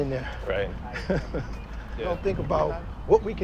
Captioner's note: chuckles